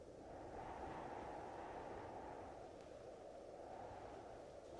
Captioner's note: wind humming continues